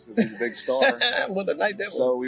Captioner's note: laughs